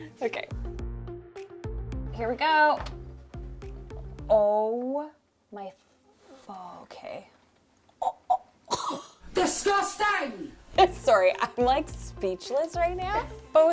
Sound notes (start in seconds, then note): 8.0 coughing